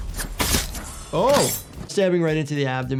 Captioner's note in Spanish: espadas cortando